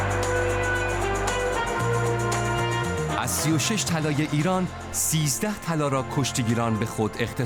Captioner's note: applause